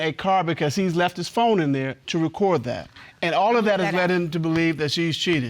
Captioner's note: none